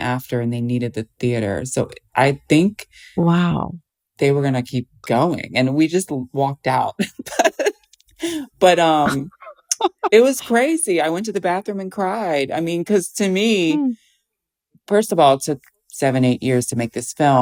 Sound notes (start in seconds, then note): 7.0 laughter